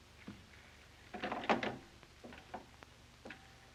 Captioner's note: phone clatters